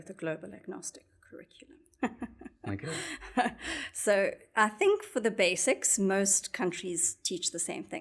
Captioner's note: laugh